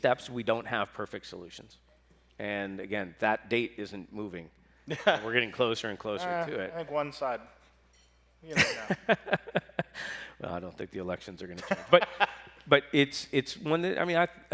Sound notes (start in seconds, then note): 8.5 laughs